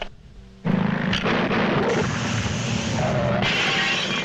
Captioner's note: engine rumbling; glass clattering